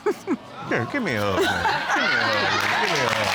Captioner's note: chuckles